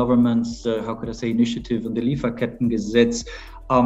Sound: German Language

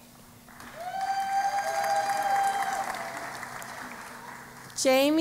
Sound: cheering and Applause

